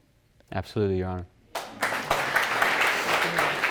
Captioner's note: all applauding